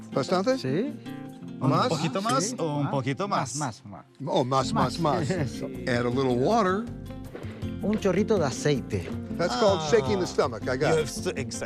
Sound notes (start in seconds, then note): 0.3 speaking Spanish; 7.9 speaking Spanish